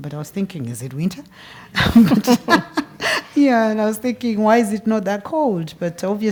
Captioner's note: laugh